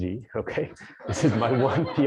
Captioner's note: laughter